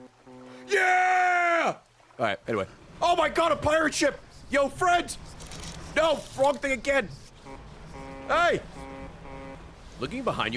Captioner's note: honks